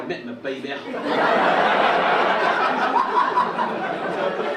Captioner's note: audience laugh